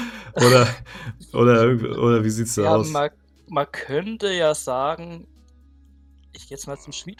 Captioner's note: gasps; laughter